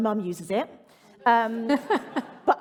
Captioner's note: laughter